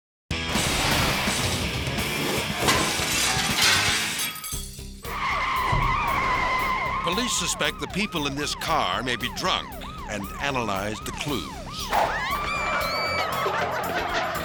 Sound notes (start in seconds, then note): 0.4 upbeat dramatic music; 2.3 glass shatters; 5.0 tires screech; 12.1 sirens blaring